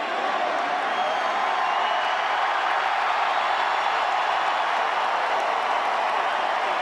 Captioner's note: cheers and applause